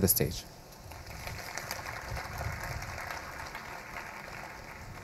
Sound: audience applauding

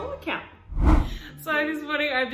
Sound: air whooshing

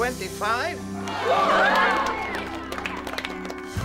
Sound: cheering

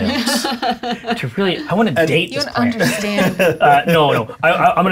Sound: laughter

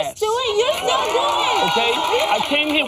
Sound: audience cheers

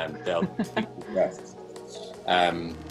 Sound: laughs

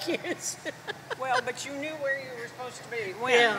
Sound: chuckles

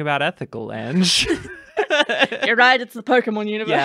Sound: laughter

